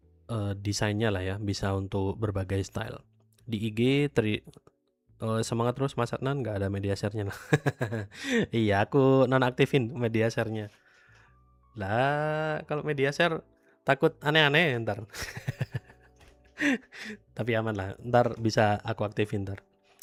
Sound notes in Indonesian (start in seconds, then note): 8.1 tertawa; 15.2 tertawa